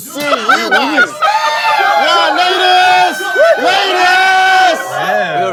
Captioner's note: 3,000 female staff cheering